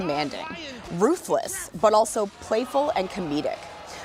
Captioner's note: cheers and applause